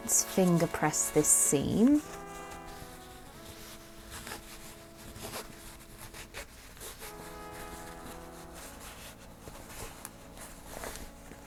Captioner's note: fabric rustling